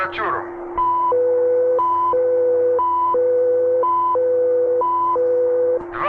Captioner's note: soldier speaking in Russian; machinery whirring and beeping; soldier speaking in Russian